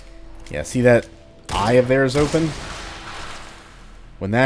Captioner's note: Colt firing